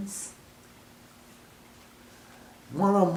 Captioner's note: pause